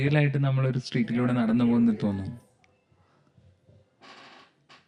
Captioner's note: silence